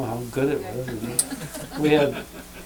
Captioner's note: laughter